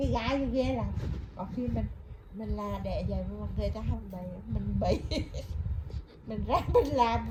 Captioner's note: laugh